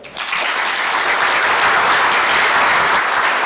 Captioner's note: clapping